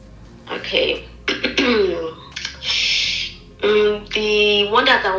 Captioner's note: clears throat